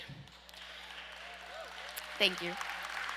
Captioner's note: audience applause